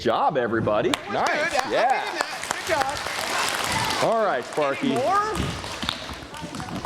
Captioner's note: applause